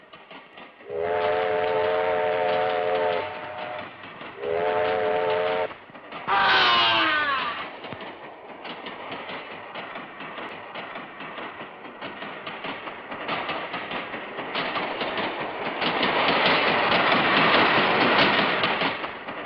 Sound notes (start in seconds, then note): 0.9 train horn blares; 1.1 groans; 16.0 train rumbling